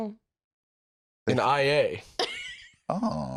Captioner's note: laughs